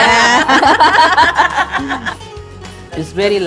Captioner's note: laughter